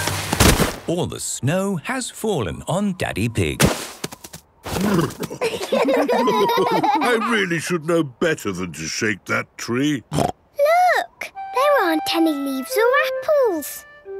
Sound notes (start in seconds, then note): 5.2 laughter; 9.8 snorting